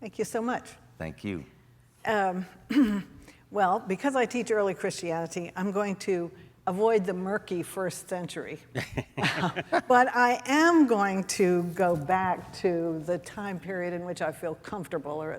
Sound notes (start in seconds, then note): 8.7 man laughing